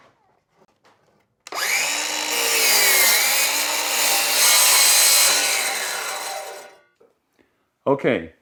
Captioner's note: saw Noise